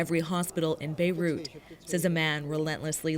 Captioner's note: speaking Foreign Language